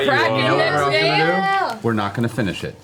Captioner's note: excited shouting